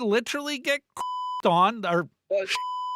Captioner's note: beep